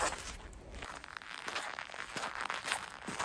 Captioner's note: snow crackle